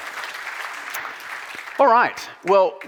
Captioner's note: audience applauding